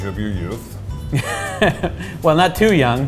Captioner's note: laughs